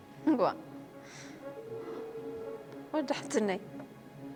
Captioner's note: phone-ringing